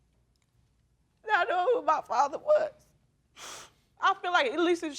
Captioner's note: sniveling